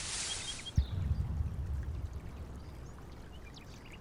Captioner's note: creek flowing; birds chirping